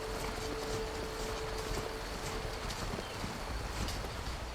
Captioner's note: foot steps